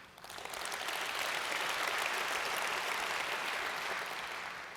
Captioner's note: audience applauds